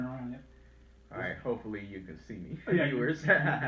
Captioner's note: chuckles